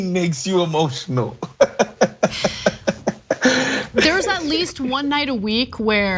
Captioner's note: laugh